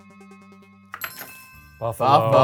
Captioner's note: suspenseful music; list chimes